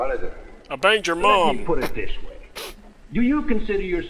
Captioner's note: snorts